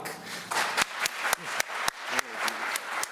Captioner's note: applause